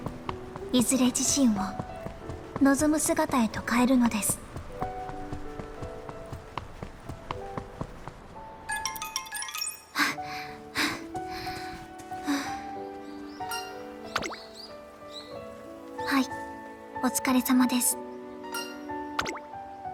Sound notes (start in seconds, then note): 9.6 sigh; 10.0 huff